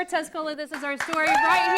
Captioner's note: �cheering and applause�